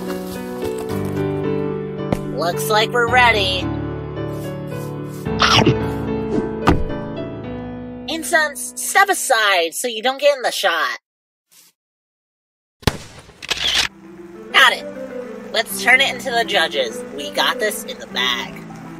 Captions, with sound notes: Looks like we're ready. [chomp] Incense, step aside so you don’t get in the shot. [camera shutter] Got it! Let’s turn it into the judges, we got this in the bag.